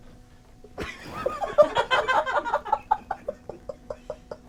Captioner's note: people laughing